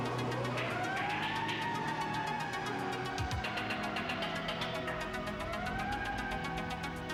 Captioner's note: siren wailing